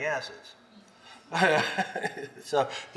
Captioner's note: laughs